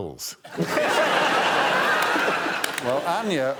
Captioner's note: laughter